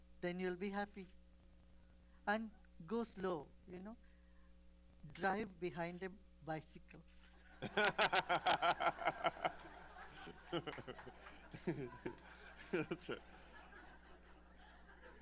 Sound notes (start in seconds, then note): 10.5 laughter